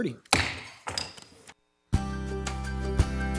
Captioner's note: gavel taps; gentle music